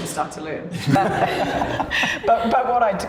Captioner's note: laughter